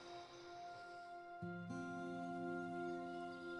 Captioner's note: laughs